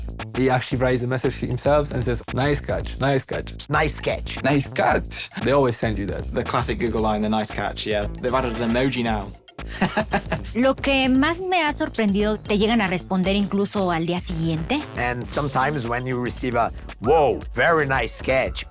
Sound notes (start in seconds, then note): 9.6 laughs; 10.7 speaks in Spanish